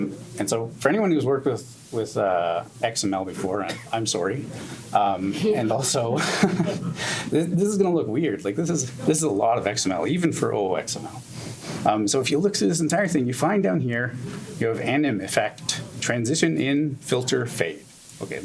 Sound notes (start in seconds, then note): 3.3 laughs; 5.9 audience laughs gently